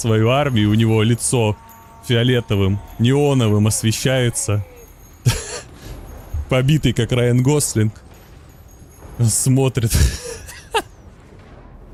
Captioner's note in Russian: смех